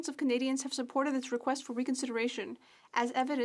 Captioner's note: speaking French